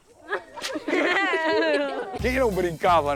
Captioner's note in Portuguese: risos